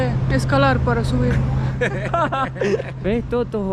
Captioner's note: laughs